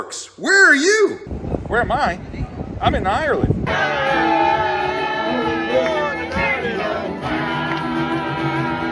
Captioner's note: applause